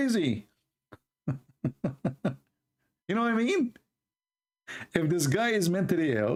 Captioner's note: Ketawa